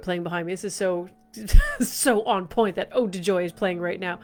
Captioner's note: laughs